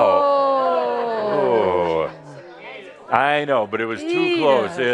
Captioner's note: groans and comments from the audience